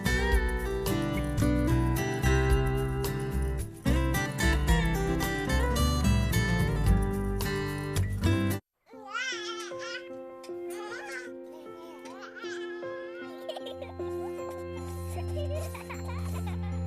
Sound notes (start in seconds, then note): 8.8 baby crying; 11.8 child laughing